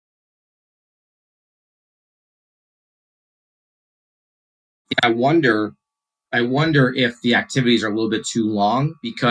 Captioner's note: silence